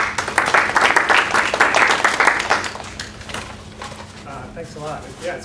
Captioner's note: applause